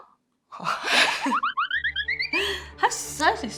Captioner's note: giggle